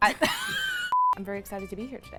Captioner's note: laughs; beeps